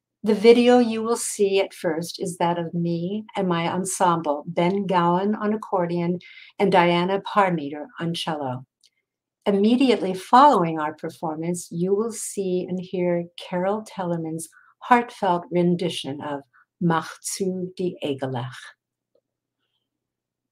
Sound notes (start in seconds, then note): 16.2 speaking in foreign language